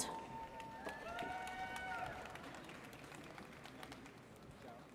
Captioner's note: audience cheers